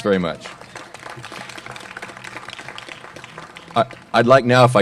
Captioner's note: applause